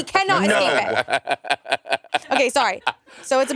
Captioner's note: Monét laughing